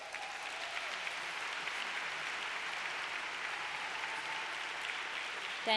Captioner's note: applause